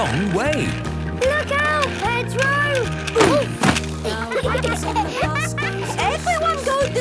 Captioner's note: laughter